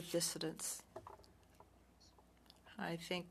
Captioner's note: speaking French